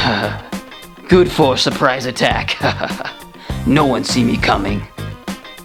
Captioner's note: chuckle